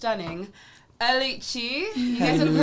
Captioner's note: laughs